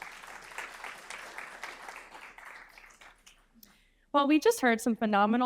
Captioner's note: audience applauding